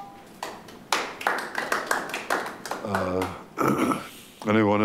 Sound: members clapping

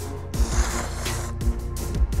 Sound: slurping

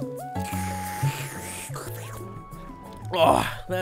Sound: slurping

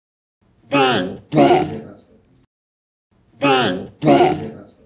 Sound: robotic fighting noises intensify

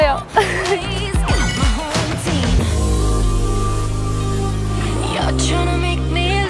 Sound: beating hearts

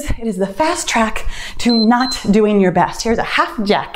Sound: timer beeps

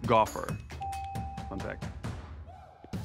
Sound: bell ringing

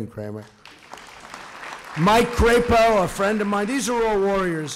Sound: applause

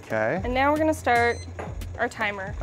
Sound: beep sound

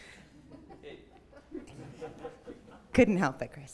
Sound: laughter

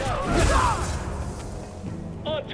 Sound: scream

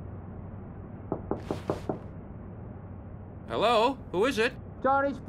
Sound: knocking at the door

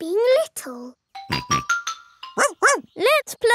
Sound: snorts; barks

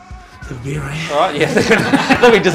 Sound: laughter

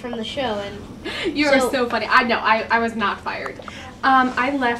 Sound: chuckling

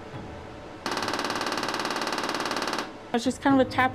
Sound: machine whirring

